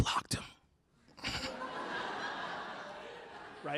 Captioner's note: laughter